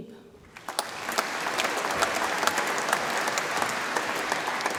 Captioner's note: audience applauds